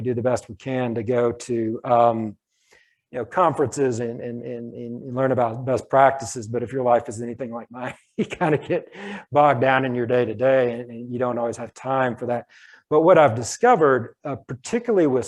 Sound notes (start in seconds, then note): 8.4 laughs